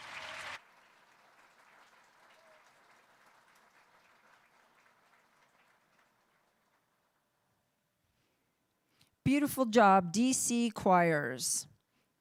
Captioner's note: applauding